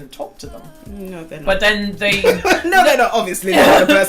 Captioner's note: laughs